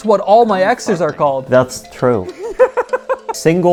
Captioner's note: laughing